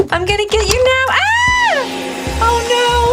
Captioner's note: scream